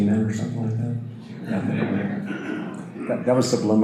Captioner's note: audience laughter